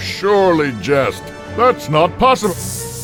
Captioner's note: anxious music; electrical buzzing